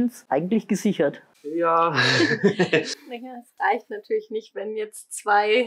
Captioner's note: laughs